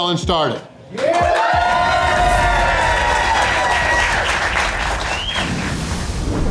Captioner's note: crowd clapping and cheering